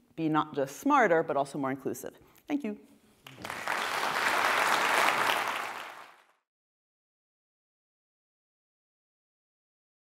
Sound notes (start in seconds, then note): 3.2 audience applauding